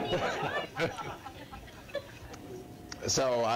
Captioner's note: laughter